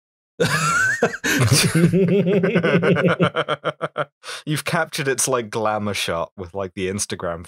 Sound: laughter

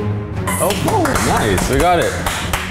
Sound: dramatic orchestral music; claps

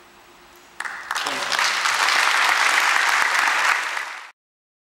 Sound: audience applause

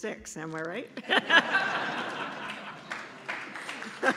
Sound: laughter; applause

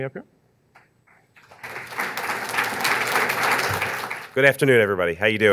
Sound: audience clapping

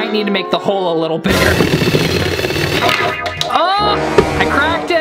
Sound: drilling

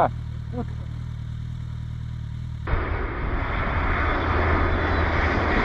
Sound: engine roaring

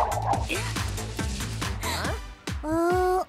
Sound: gasps

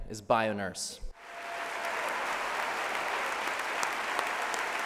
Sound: applause

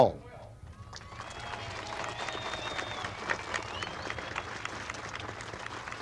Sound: crowd applauding and cheering

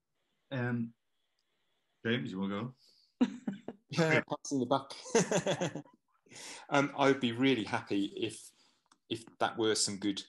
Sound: laughter

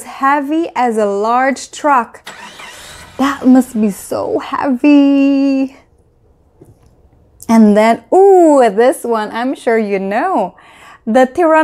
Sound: truck engine

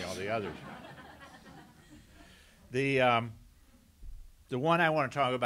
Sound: laughter

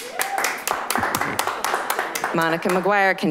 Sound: applause

